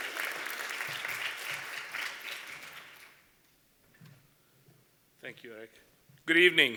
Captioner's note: applause